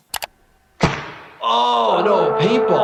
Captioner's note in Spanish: disparos de pistolas de paintball